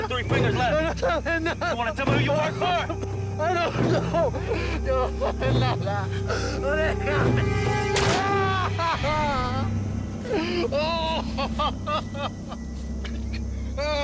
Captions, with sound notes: You got 3 fingers left. You want to tell me who you work for? I don't know! (Screaming)